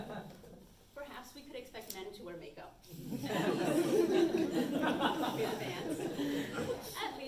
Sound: audience chuckles; audience chuckles

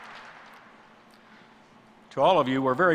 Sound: applause

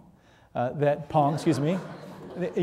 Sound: audience laughing

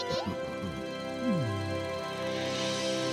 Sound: both chuckling; groans softly

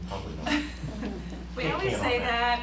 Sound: laughter

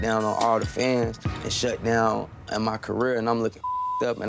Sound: beep

